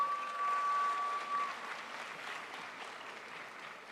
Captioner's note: crowd applauds